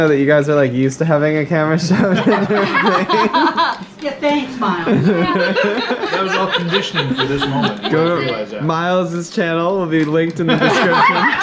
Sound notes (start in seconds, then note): 1.8 all laughing